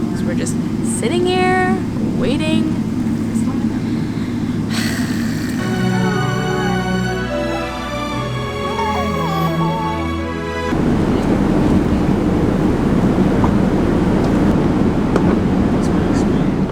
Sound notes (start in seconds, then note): 5.8 dramatic music; 7.0 cries